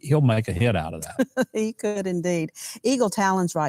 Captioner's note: laughing